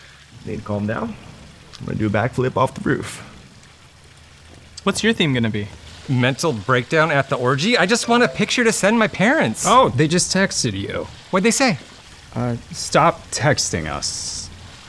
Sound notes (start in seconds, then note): none